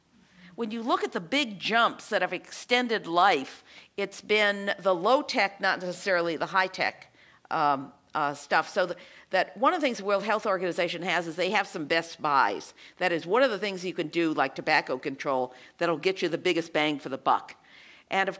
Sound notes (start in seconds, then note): none